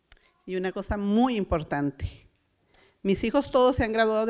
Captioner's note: foreign language